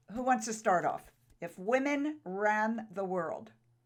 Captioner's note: none